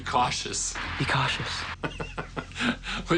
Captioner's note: laughs